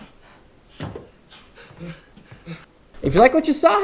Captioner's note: panting